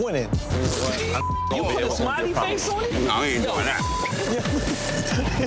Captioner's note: beep